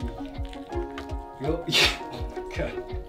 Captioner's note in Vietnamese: cười